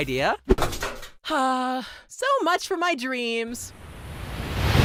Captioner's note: sigh